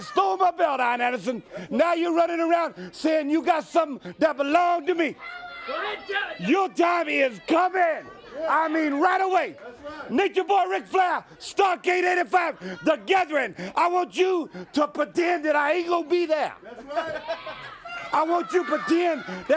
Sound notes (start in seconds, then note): 6.2 crowd chatter